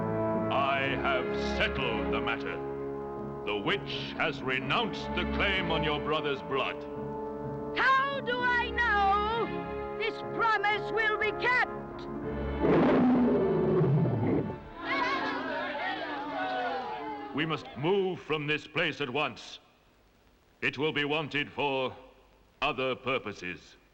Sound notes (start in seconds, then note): 12.3 roaring; 14.7 onlookers jeering